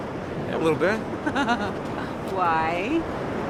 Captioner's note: laughs